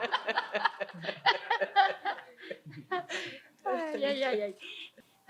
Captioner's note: risas